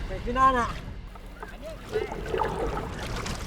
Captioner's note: speaking Austronesian language